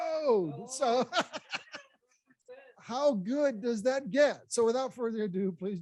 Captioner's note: laughs